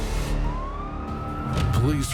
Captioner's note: sirens wailing